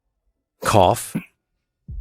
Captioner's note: cough